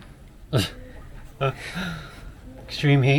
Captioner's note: laughs